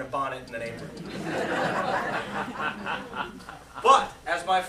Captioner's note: laughter